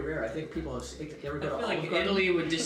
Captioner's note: murmurs